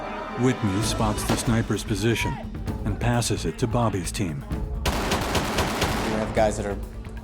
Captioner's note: voiceover